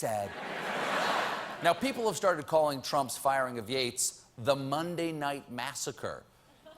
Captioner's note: laughter